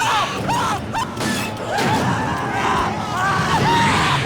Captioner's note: indistinct screaming; shouts